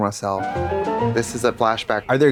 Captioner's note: bright chime